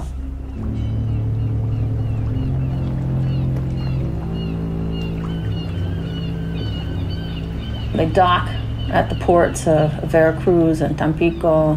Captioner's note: soundbite of birds cawing